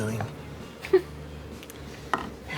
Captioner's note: laughs